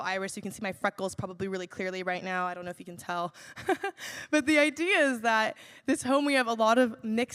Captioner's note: laughs